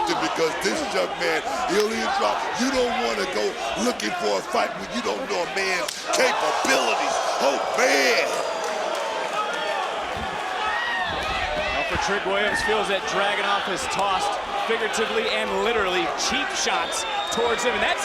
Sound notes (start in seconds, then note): 8.6 crowd chattering